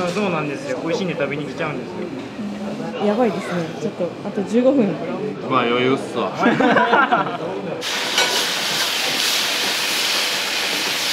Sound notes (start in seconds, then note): 6.4 laughter